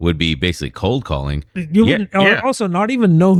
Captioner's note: uh